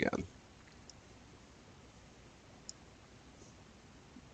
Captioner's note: mouse clicking